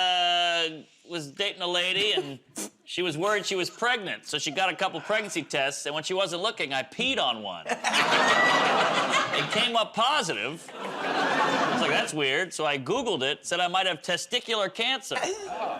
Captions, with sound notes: I was dating a lady, and she was worried she was pregnant. So she got a couple of pregnancy tests, and when she wasn't looking, I peed on one. [ Laughter ] It came up positive. I was like, "That's weird." So I Googled it, said I might have testicular cancer,